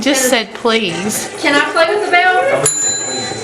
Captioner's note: ringing